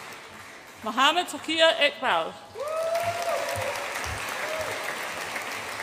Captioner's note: audience applauds and cheers